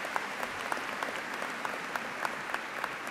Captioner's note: applause